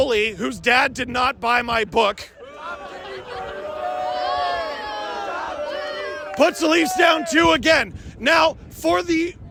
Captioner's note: applause and boos